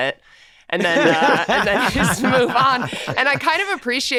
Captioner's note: men laughing